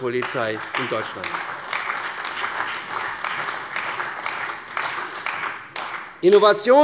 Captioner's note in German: Beifall bei der CDU und dem BÜNDNIS 90/DIE GRÜNEN